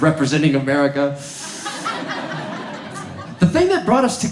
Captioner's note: audience laughs